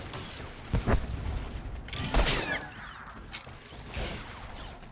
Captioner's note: gunshots